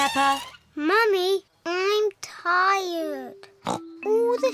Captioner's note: snorts